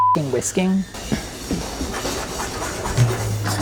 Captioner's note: faint whisking; whisks in pan